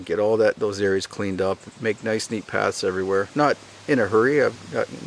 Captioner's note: none